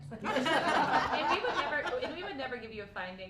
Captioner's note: laughter